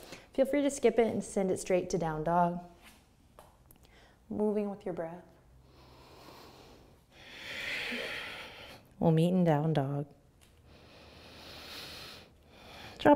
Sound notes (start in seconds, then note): 5.5 deep breathing; 10.6 breathing